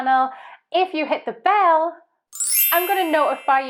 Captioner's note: tinkling